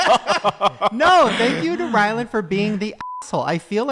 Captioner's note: men laugh; beep